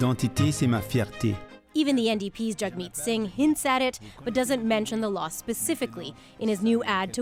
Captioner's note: speaking French